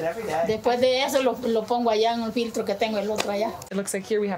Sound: speaking foreign language

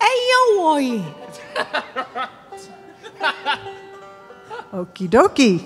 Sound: laughing

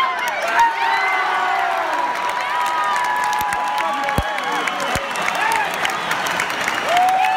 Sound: cheering intensifies

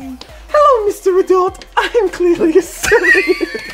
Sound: laughs

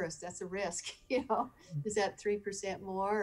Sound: laughing

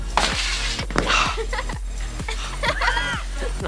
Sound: laughing

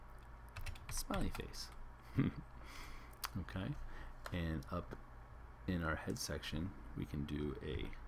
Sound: laugh

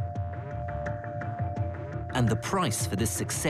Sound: voiceover

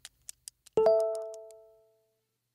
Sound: phone chimes

